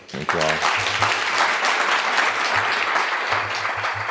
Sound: audience applauding

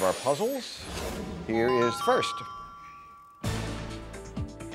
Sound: puzzle tiles ding; suspenseful music

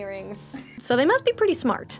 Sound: giggling

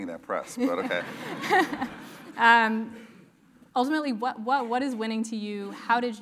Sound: laugh

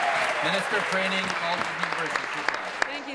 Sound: applause; cheers

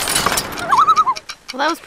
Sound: loon call

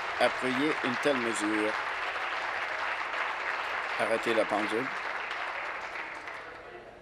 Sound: applause

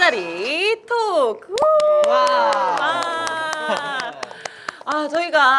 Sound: applause time

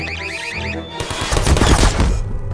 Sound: pewpewpewpew

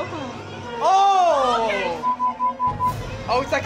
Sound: beeping

